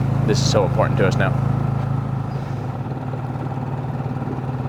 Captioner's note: motor burbling